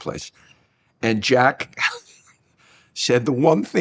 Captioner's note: chuckles